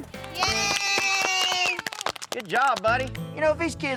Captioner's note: clapping